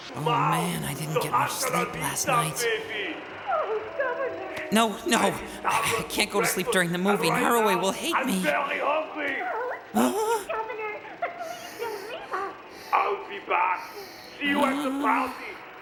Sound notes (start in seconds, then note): 11.4 Narue breathing